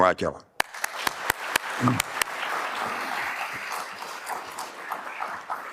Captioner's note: audience applauding